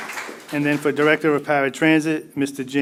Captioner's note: applause